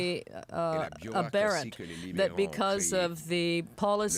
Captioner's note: speaking French